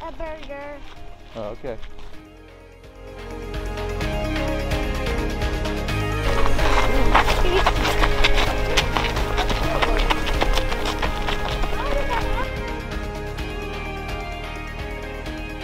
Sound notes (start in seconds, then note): 2.5 inspirational music continues; 8.6 stones rustling; 11.4 inspirational music continues